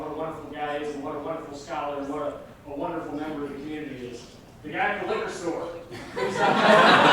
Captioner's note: laughter